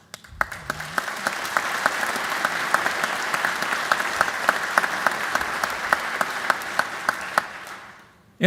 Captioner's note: applause